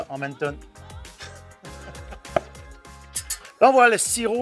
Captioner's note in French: rires